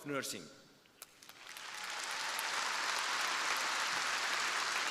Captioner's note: crowd applauding